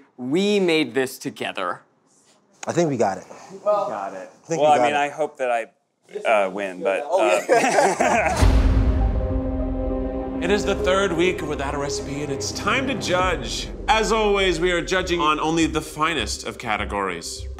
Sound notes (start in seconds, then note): 7.2 all laughing; 8.9 light, tense music